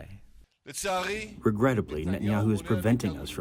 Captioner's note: through translator